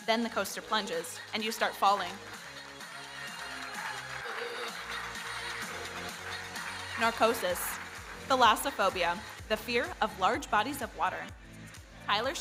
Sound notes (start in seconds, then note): 3.5 audience applauding; 5.2 electronic dance music